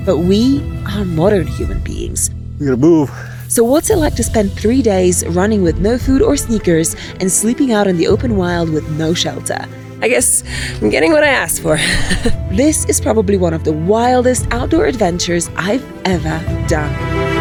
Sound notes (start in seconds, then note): 10.1 laughs; 17.1 pensive music